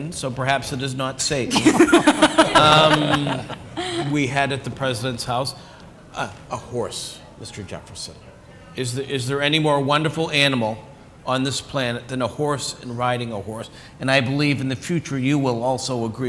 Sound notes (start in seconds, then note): 1.5 laughter